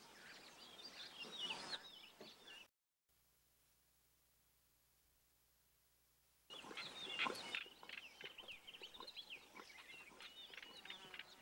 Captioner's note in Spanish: sonidos selváticos